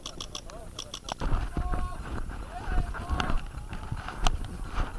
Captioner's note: shouting in the distance